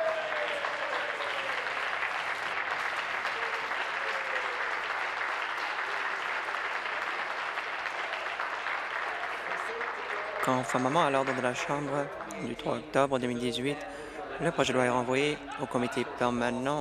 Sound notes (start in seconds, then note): 5.4 applause